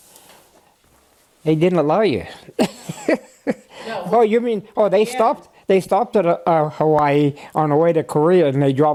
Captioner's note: laughter